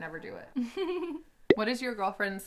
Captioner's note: giggles